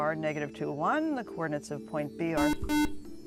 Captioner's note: buzzer